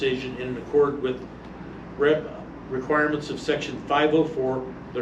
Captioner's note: stammers